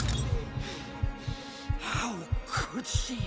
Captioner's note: breathing; heart beating